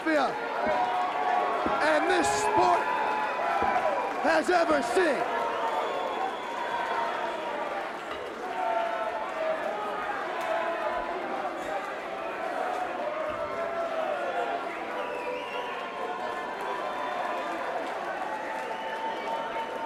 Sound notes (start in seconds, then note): 5.3 crowd cheering